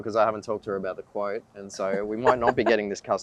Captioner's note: woman laughing